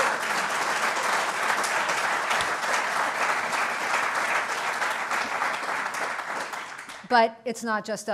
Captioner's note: applause